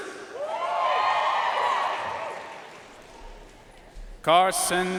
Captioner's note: audience cheering and applauding